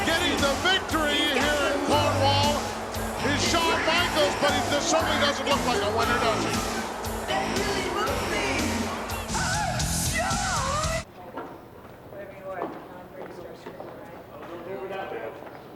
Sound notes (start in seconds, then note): 12.5 footsteps tapping